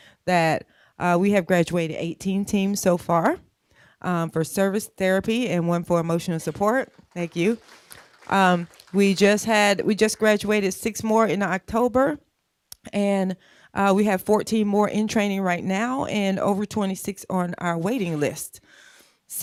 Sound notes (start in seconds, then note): 6.4 applause